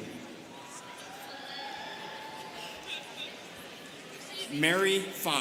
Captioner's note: students cheering